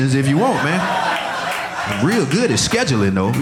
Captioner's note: audience laughing